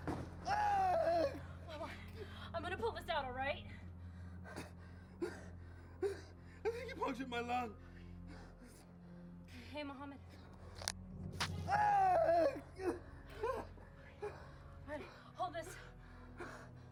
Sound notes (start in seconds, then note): 0.4 screams; 11.6 screams